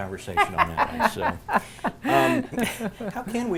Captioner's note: laughing